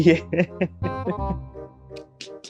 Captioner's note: laughing